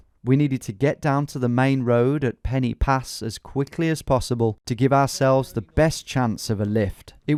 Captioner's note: none